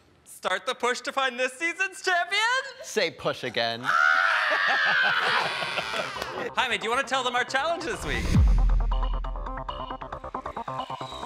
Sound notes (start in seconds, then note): 3.8 screaming; 4.4 laughing; 8.2 energetic music